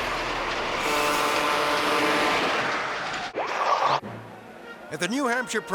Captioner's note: truck horn honking